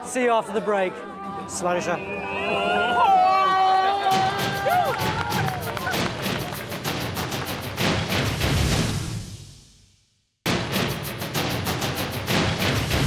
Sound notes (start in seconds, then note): 2.1 wailing; 4.3 dramatic music